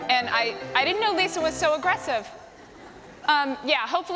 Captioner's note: laughter